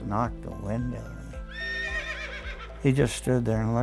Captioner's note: horse whinny